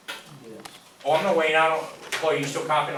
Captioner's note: voiceover